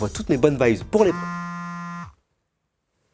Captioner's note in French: vibreur